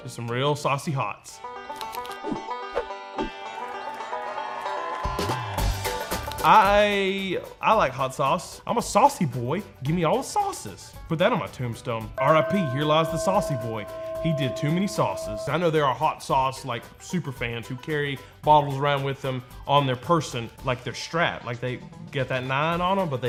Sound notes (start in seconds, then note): 12.2 church bell rings